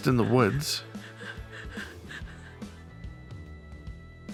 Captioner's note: girl crying